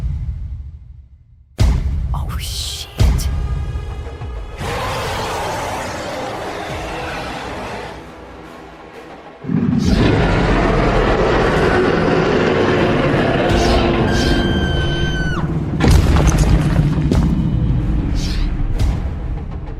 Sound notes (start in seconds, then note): 4.6 angry roar; 13.5 scream